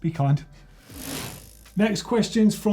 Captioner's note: bike wheel spinning